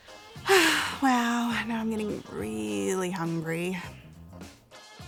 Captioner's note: sighs